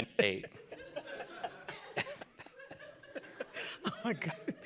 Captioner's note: laughter